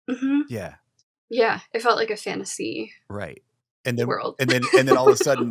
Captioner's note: giggles